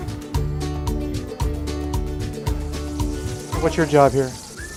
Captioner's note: grease sizzle